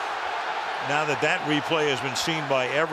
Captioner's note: cheering